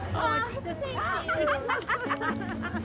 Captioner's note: laughs